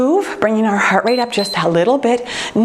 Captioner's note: timer beeps